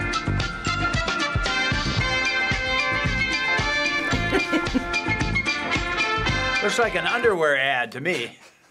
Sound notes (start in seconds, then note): 3.8 chuckling